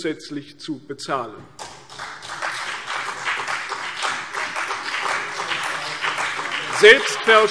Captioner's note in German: Beifall CDU und BÜNDNIS 90/DIE GRÜNEN